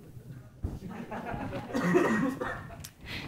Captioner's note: laughter